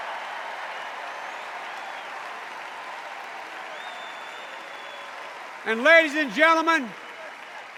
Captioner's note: cheers and applause